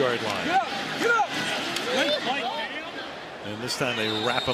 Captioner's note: onfield chatter